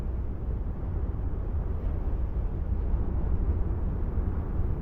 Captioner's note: wind whistling continues